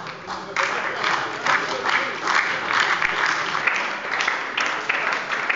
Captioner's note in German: Beifall bei der SPD